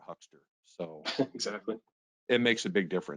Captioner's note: chuckles